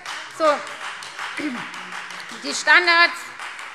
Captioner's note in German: Beifall Freie Demokraten